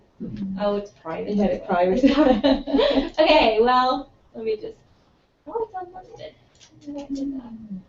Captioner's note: laugh